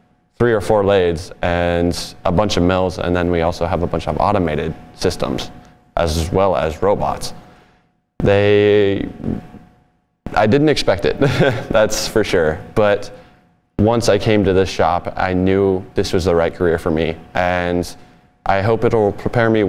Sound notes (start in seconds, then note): 11.2 laughs